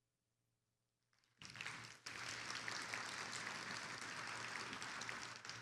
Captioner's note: attendees applauding